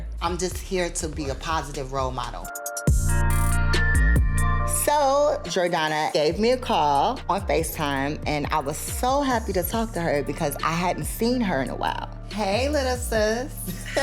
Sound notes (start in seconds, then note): 2.7 upbeat music; 13.6 laughs